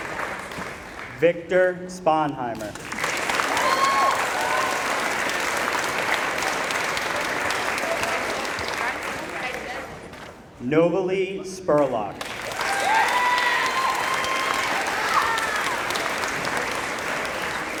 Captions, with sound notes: Victor Sponheimer [applause] Novalee Spurlock [applause]